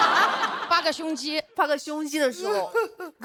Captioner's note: laughs